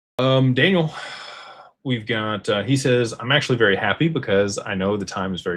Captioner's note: sighs and gasps